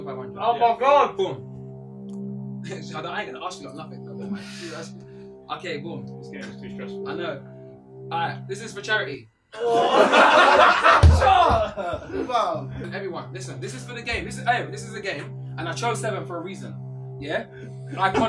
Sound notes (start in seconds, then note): 9.5 all laughing